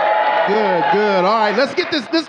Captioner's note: audience cheering